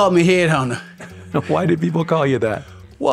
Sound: laughing

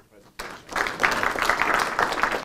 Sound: applause

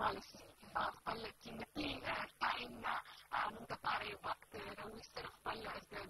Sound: speaking in foreign language

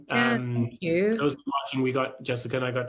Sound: chuckles

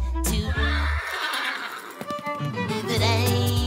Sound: whinnying

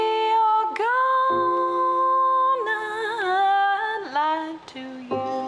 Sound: none

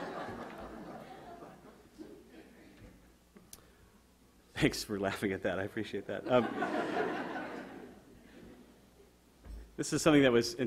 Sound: audience laughter

